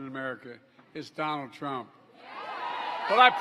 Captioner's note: applause